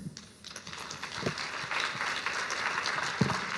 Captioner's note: applause